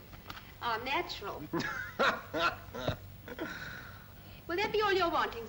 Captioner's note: laughs